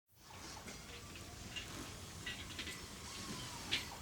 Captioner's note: machinery whirring